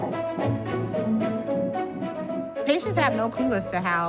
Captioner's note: ultrasound heartbeat